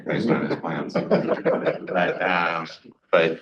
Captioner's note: laughs